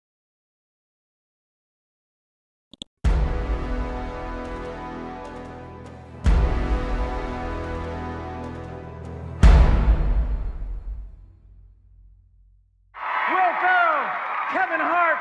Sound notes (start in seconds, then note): 2.7 clicks mouse; 3.3 dramatic chord; 12.9 audience cheers